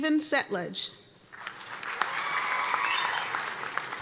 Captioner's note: applause